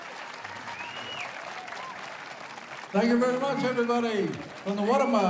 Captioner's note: cheering and applause